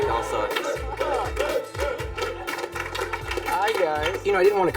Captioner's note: students clapping